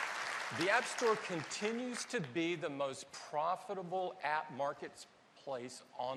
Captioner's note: applause